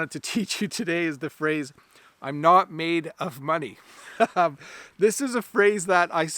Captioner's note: laughs